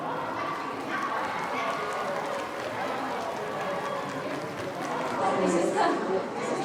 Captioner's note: crowd cheering and clapping